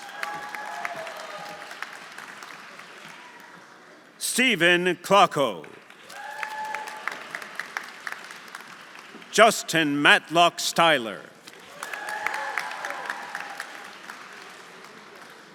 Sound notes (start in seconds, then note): 0.0 audience cheering; 0.0 audience applauding; 6.1 audience cheering; 11.4 audience applauding; 11.7 audience cheering